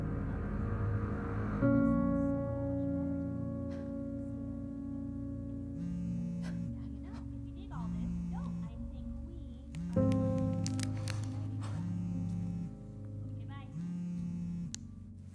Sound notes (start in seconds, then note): 5.6 phone vibrating